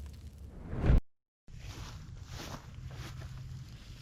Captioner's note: footsteps